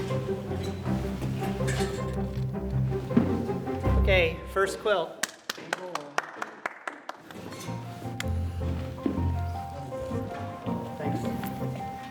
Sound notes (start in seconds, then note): 0.0 energetic string music and construction noise; 5.2 applause; 7.7 energetic string music and construction noise